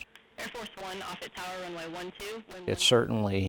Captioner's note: air traffic communications